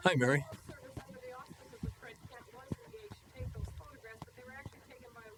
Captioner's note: voiceover